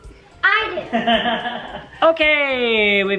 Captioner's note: laughing